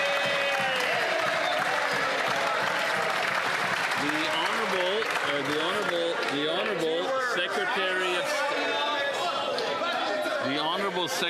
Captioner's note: some Applause